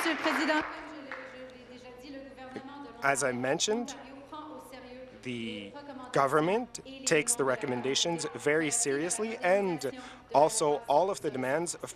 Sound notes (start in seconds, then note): 0.0 applause; 3.9 speaking in French